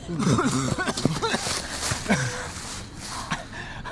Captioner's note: Sherman coughing